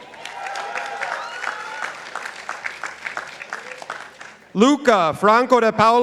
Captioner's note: participants applauding